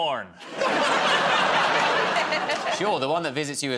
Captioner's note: laughter